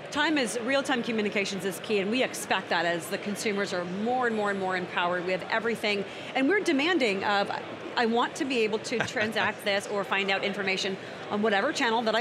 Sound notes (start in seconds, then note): 9.0 laughing